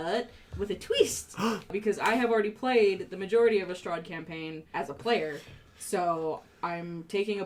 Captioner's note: gasps